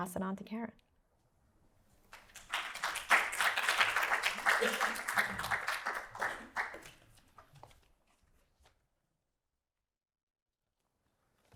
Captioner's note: applause